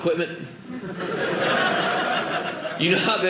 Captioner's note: audience laughing